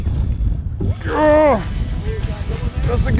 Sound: fishing line zipping; grunting

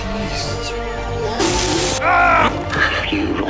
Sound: screaming

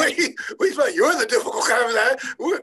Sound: laughing

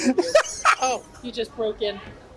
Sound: laughs

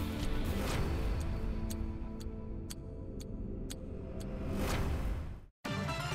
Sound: clock ticking; suspenseful music

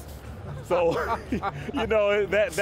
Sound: laughing

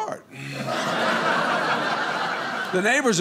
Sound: audience laughing

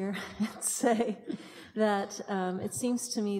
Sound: chuckles

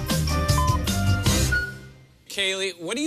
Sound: electronic beeping

